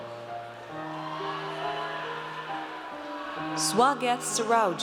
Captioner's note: audience cheers